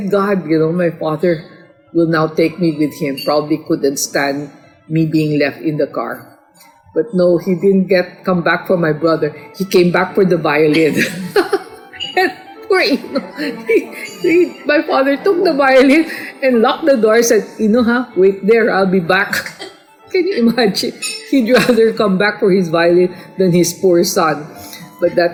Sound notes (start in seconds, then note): 10.6 laugh